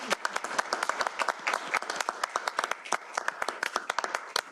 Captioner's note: applause